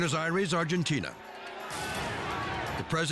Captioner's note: people shouting in foreign language